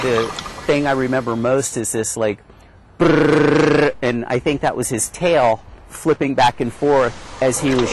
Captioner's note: vibrating noise